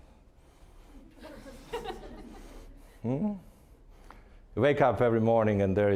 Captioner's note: audience laughing